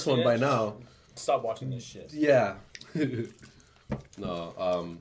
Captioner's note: laughs